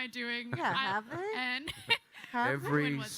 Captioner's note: chuckles